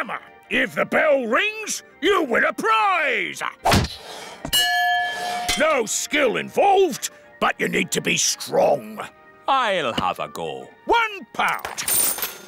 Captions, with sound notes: -If the bell rings, you win a prize! -(THUD) -(BELL RINGS) -No skill involved, but you need to be strong. -I'll have a go. -£1!